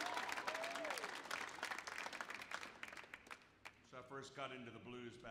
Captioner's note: audience applauds